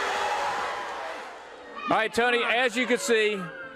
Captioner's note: crowd cheering